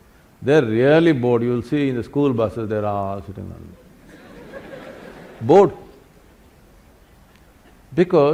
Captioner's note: laughter